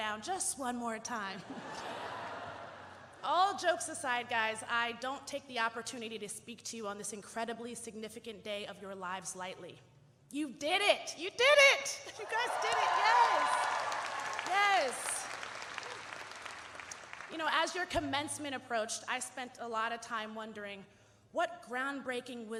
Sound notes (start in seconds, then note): 14.0 audience cheering and applauding